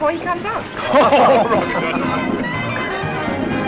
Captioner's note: all laugh